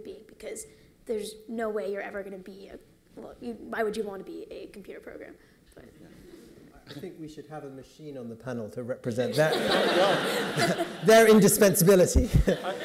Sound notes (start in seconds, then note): 9.3 laughter